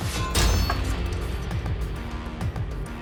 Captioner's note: crashing